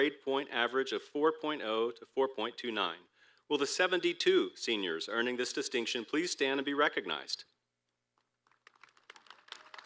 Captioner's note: applause